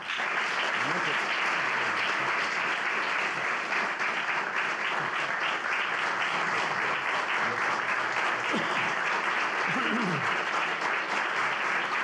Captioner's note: applause